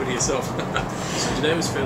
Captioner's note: laughs